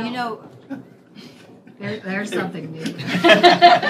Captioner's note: laughter